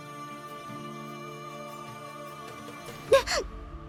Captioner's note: exerting force